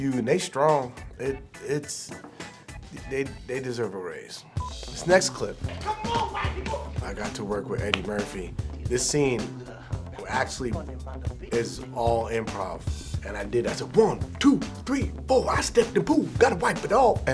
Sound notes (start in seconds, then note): 4.6 camera beeps